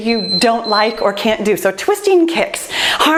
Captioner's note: timer beeps